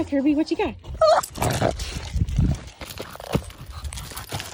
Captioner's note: Kerby whining